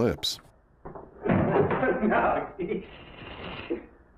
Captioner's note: laughing